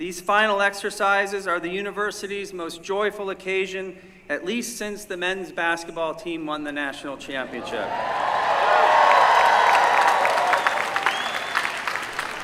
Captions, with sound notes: These Final Exercises are the university's most joyful occasion, at least since the men's basketball team won the national championship. [CHEERING]